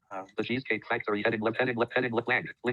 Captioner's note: automated Voice